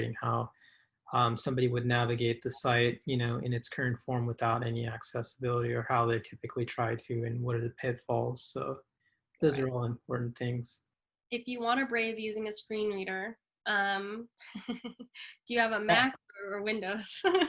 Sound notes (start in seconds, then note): 14.7 chuckles